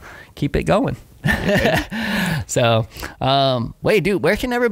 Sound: laughing

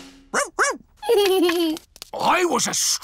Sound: drumroll; giggles

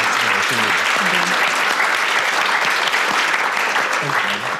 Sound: audience applauds

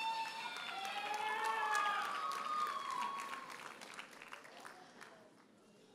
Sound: audience members holler and applaud

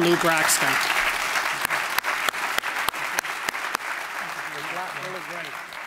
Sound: applause

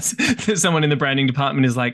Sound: laughter

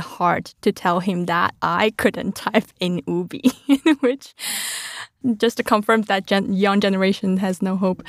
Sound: laughs

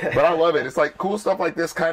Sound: laughter

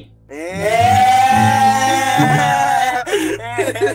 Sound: excited in Chilean

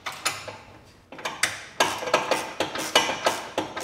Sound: metal noises, ratchets

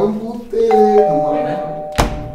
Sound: calling bell

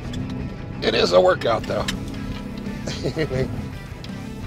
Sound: chuckles

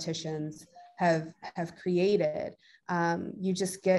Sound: device pinging

